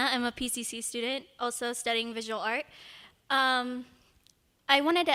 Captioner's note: none